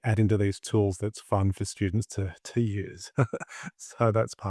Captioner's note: laughs